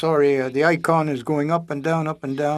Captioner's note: speaking French